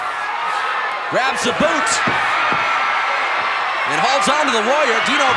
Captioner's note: audience cheering